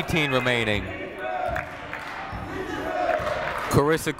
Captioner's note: people chanting in the crowd